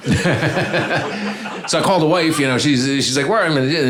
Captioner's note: audience laughing